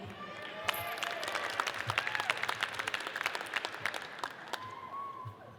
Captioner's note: audience cheers and applauds